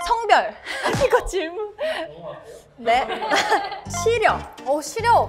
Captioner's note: laughs when dumbfounded^^